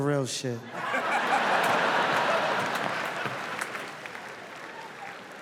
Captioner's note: audience laughs